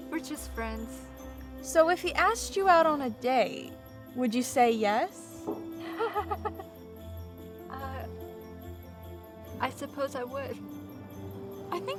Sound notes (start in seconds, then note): 5.8 Noel giggles nervously